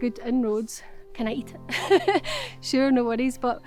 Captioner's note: Lauren Laughs